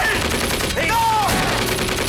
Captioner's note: guns firing